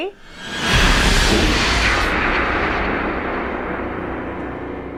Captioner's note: vortex rushes; ominous music plays